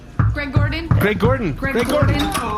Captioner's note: knocking on door